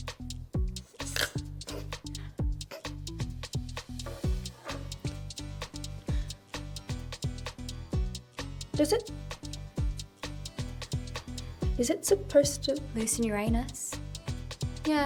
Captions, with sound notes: (snorts) - Does it... Is It supposed to - - Loosen your anus?